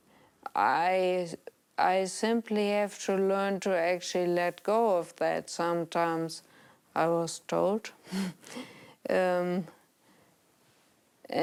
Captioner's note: chuckles